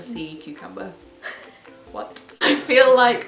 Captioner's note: laughs